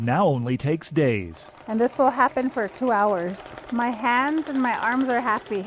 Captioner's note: laughs